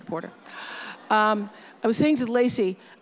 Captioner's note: audience laughs